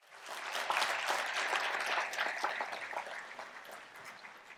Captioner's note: applause